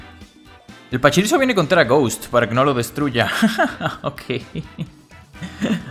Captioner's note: laughs in evil mice